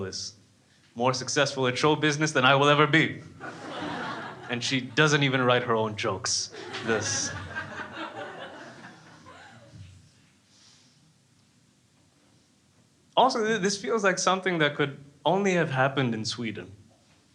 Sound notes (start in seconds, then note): 6.5 crowd laughing